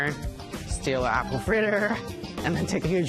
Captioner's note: laughs